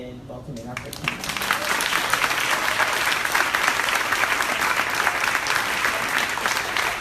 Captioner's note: crowd applauding drowns out speaker